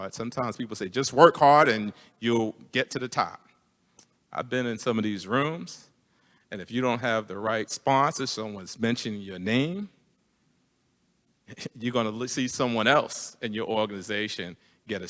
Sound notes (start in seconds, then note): none